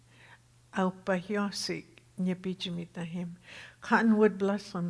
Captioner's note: speaking Tohono O'odham